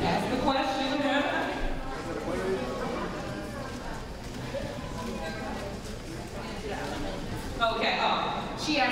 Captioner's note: none